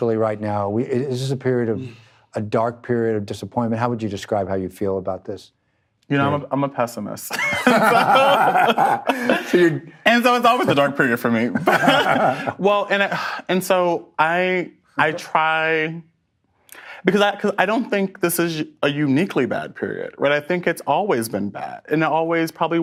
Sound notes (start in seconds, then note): 7.3 both laugh; 11.4 laughs